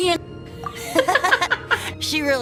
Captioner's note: laugh